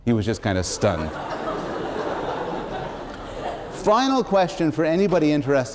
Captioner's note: laughter